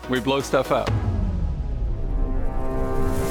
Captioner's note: boom